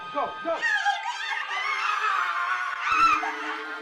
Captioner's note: screams